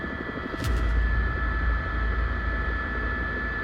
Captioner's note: helicopter